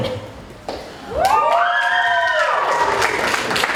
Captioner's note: cheering